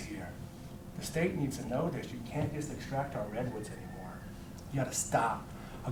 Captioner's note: none